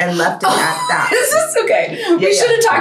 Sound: laughing

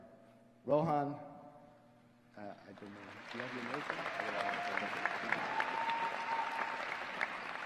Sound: applause

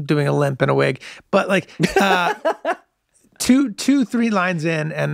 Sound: Glenn laughs

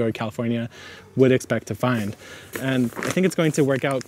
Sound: bag thumps

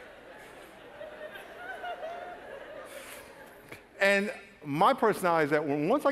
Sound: laughter

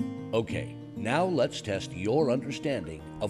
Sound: voiceover

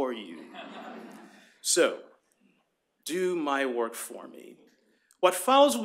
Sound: laughter

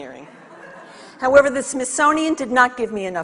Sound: audience laughs

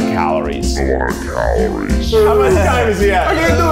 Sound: distorted and slow

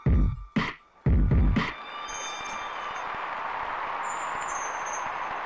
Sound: audience applauding

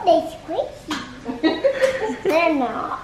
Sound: laughing

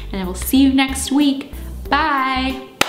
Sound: clap

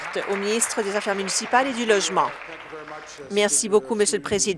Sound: applause

